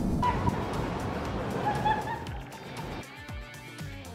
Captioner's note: woman laughing; funky upbeat music